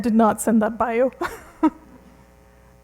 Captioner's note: laughs